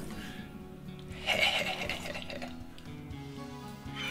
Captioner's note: maniacal Laugh